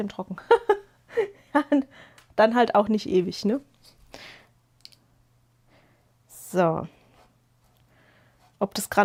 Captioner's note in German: gelächter